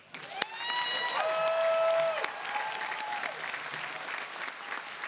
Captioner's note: audience applauding